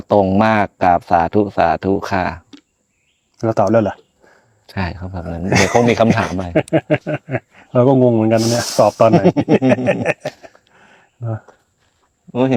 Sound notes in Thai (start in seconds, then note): 5.3 เสียงหัวเราะ